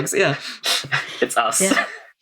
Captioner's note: laughs